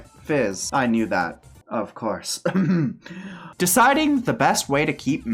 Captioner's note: ahem